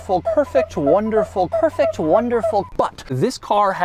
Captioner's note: rubbing noise